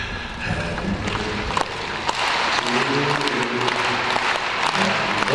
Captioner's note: audience clapping